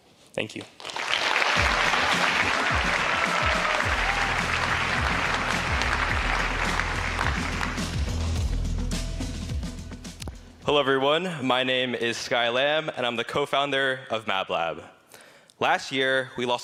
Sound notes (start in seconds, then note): 10.1 applause